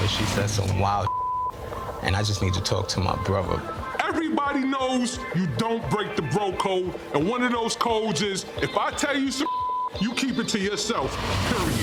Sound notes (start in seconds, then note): 1.0 beep; 9.4 beep